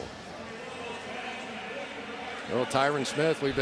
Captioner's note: pa announcement